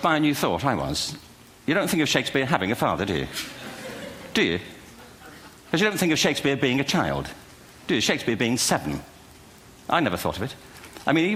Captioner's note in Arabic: ضحك